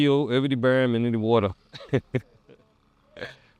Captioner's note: laughs